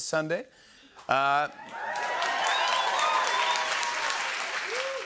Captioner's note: cheering, whistling, and applause